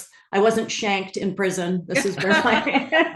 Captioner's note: laugh